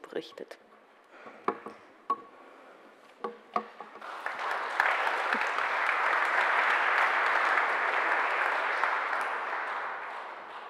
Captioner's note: applause